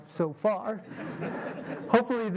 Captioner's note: laughing